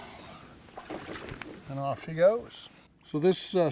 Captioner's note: fish splashing